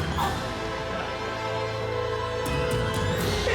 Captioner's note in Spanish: Sollozos